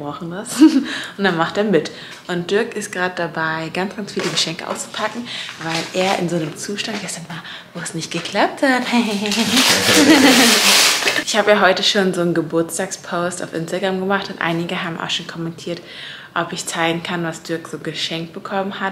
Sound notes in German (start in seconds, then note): 9.3 Beide Lachen